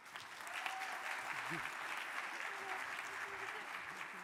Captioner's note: audience applauding